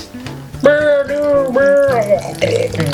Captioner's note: drowning noises